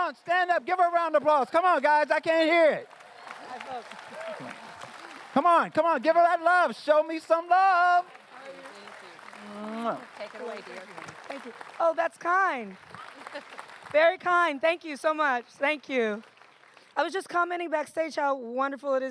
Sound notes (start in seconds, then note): 3.6 applause